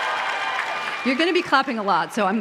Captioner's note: applause